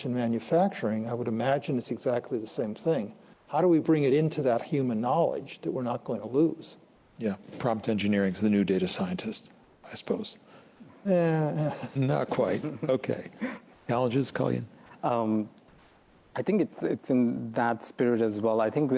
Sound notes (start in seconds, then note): 11.3 chuckles